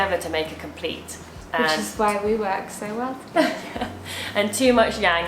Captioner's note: laughing